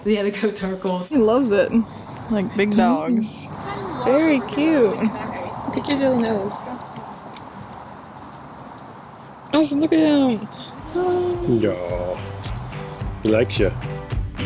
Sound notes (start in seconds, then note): 10.8 coos; 14.2 upbeat music